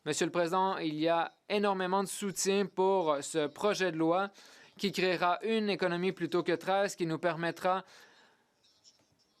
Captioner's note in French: voix de l'interprète